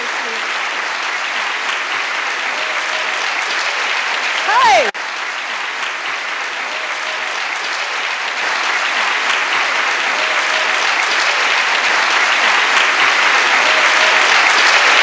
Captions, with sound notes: - Thank you. Hi. (audience applauding)